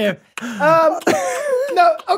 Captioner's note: gums smack